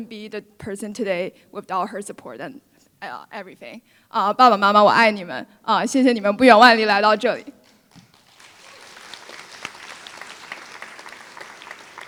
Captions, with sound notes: be the person today without her support and everything [Foreign Language]